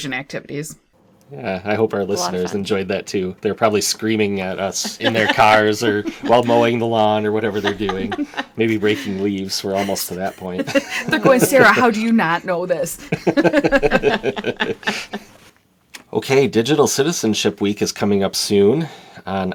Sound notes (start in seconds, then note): 12.9 laughter